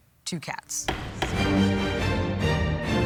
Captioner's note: gavel bangs; dramatic music